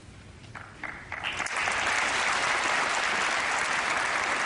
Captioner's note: applause